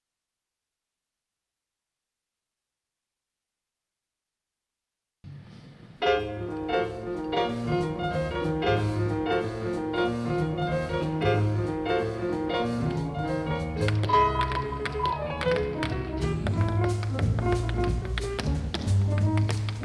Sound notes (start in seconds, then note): 6.4 upbeat jazz music; 12.8 shoes tapping